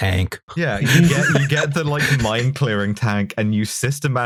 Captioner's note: laughter